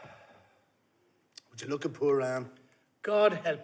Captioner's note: son sighs